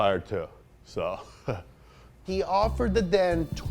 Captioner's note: nervous laugh